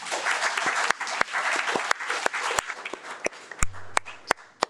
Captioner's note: audience applauding